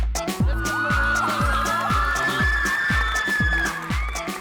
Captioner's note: cheers and applause